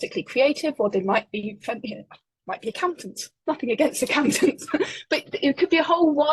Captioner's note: laughing